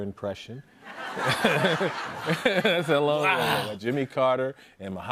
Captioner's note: laughter